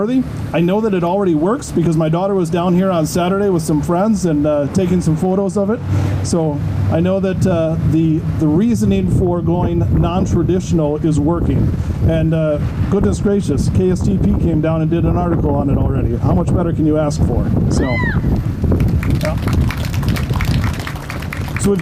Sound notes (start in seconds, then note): 17.7 audience member cheers; 18.6 audience starts clapping